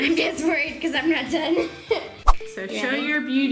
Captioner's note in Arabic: يضحك